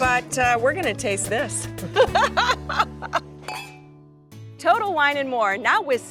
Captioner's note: laughs